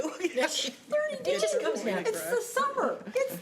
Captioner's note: laughing